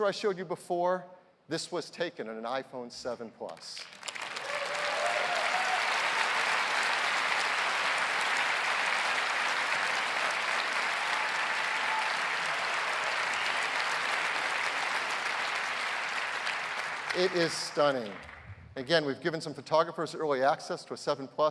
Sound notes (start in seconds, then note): 3.3 applause